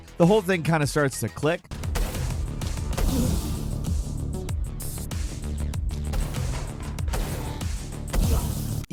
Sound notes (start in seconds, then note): 2.7 lasers blasting